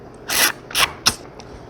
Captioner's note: sip